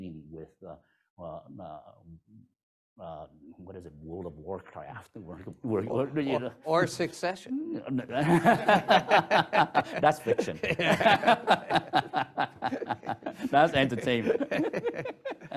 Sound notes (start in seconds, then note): 8.1 laughter